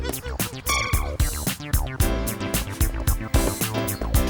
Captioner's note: screaming; muttering